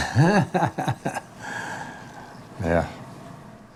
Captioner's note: laughs